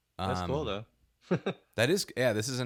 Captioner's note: chuckles